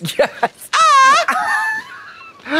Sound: Trixie crows

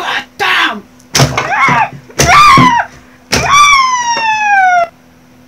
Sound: woody & rc buggy screaming from every hit

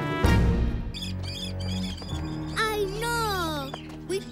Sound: birds squawking

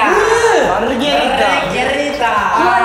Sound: haha

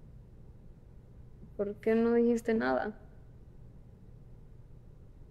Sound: Spanish; Spanish

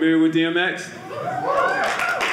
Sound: audience cheering

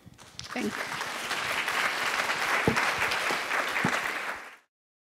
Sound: audience applauding

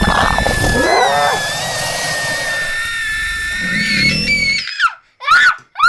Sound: growling; roaring; screaming

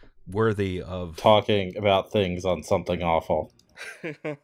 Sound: laughter

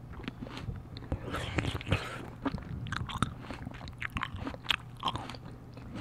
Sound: slurp slurp

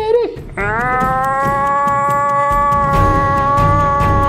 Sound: Chirik groaning

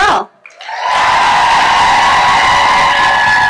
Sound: crowd cheering

